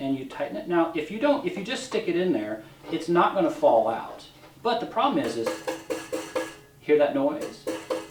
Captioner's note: rattling sound